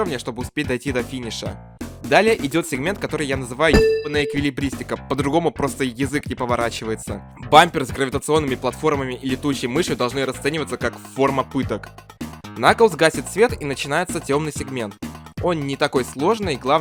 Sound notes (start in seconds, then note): 3.7 bang